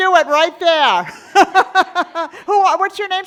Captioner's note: laughing